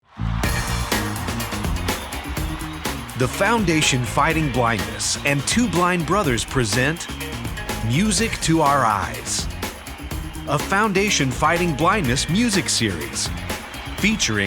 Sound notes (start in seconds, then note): 0.4 inspiring rock music; 0.4 rousing applause